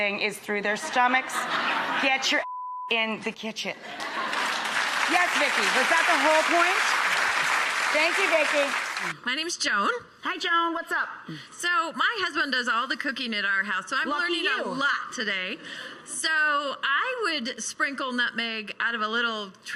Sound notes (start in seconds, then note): 2.4 beep; 3.8 laughter and applause